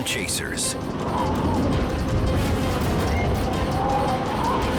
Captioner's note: wind whistles